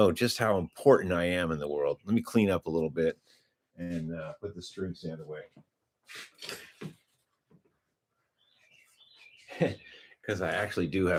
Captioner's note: snorts